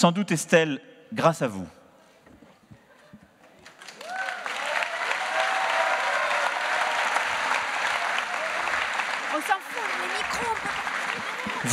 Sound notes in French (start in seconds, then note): 3.6 Applaudissements